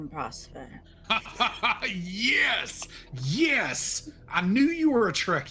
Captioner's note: laughing